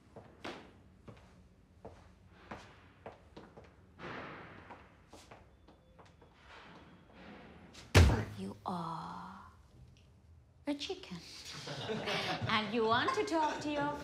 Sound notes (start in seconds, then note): 2.0 footsteps clack; 7.8 thud; 11.5 officers laugh